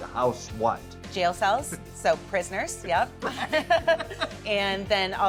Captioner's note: laughs